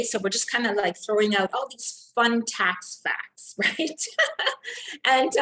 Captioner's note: laughs